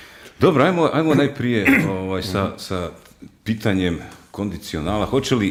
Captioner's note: coughs